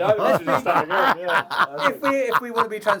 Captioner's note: laughing